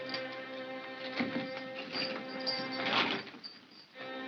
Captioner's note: lock rattles; ominous whimsical music; chain clatters; ominous whimsical music